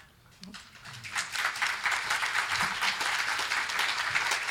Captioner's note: group clapping